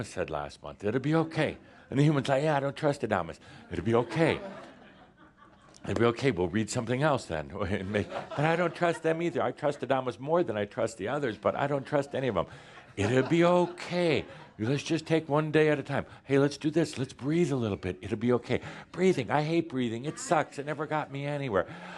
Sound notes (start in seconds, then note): 3.2 some chuckles; 7.4 more chuckles